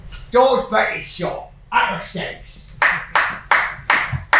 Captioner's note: cockney accent; clapping